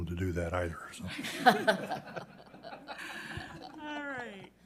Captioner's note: members laughing